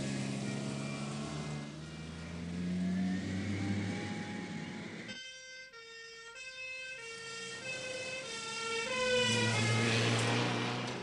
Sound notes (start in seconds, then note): 0.4 siren continues